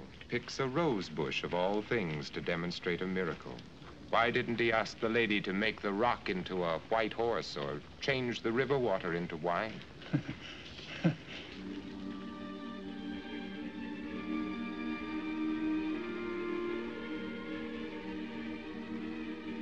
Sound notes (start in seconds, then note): 9.9 chuckles